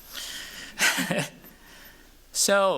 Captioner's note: chuckles